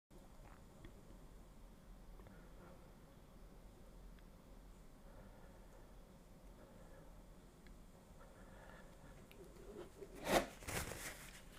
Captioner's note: silence